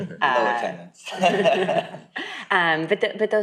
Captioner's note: people laughing